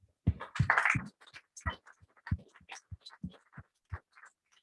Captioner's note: applause